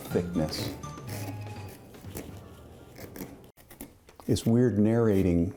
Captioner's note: tool scraping the pumpkin